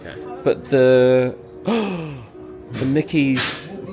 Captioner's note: gasps